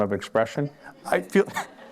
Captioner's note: laughter